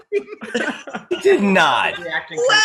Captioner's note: laughing